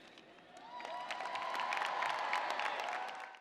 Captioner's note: applause